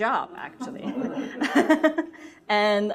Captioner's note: laughter